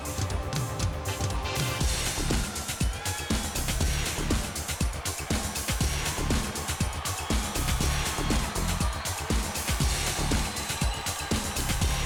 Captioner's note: crowd cheering